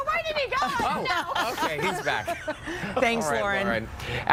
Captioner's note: laughter